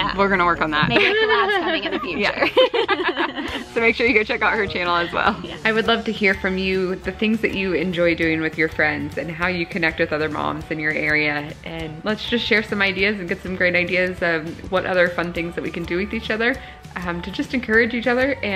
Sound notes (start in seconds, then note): 2.6 laughs